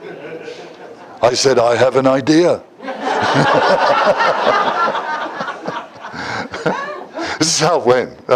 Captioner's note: Смех; Смех